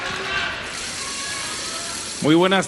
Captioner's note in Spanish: aplausos